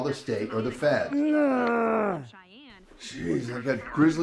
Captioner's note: Mose grunts